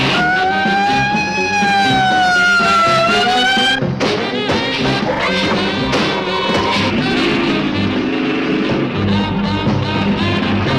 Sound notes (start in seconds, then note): 0.0 engine revving; 0.0 sirens blaring; 4.5 suspenseful music; 4.6 ground rumbling